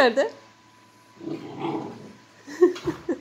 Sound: growls

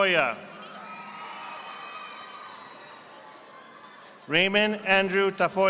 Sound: audience applauding

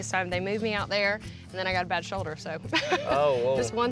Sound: chuckles

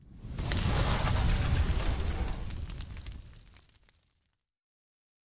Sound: explosion trails off

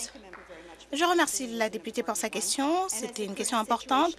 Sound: applause

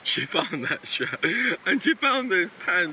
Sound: laughing

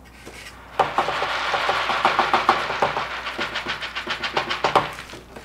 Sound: beads rustling

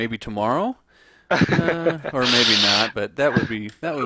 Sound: laughs

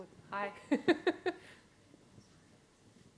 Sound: laughs

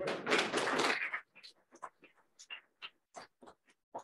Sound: applause

